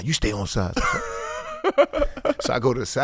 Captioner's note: laughing